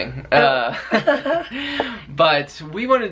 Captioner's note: chuckling